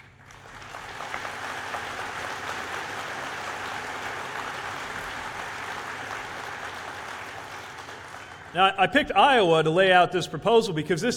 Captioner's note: applause